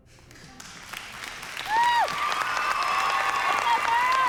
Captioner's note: cheering and applause